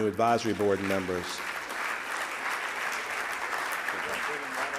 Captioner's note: clapping